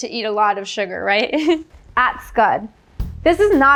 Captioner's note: chuckling